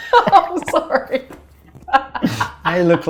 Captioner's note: laughing